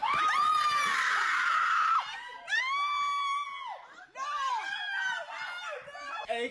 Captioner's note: screaming